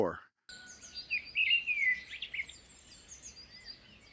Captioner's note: bird trilling